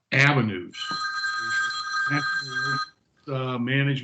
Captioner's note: phone ringing